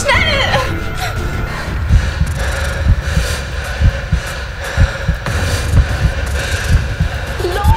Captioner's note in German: Herzschlag